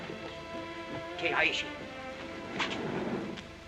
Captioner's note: ominous music; speaking in Chinese